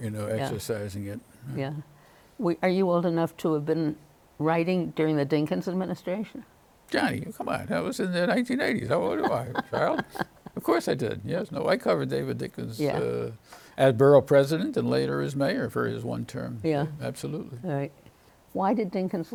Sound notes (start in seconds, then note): 11.2 laughs